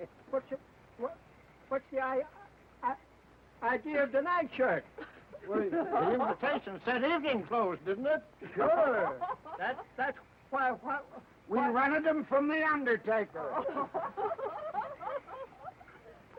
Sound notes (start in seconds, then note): 8.4 guests laughing; 13.4 guests laughing